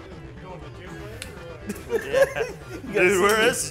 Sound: man laughs

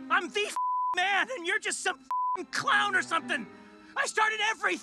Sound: beep

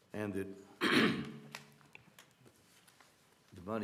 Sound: cough

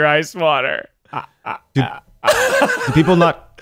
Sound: stammering in disbelief

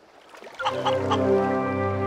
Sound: clucking

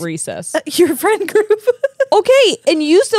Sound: chuckles

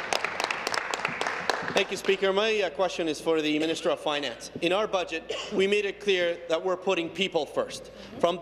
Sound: applause

